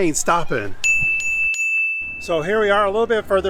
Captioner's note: chime ringing